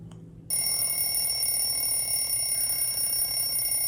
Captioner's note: alarm ringing